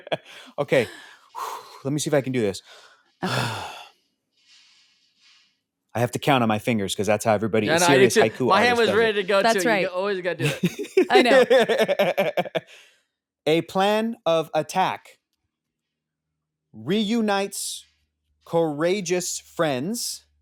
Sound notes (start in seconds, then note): 3.2 sighs; 10.4 laughing